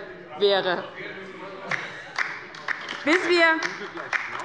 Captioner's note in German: Beifall bei der LINKEN